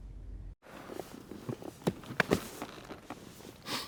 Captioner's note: chairs groan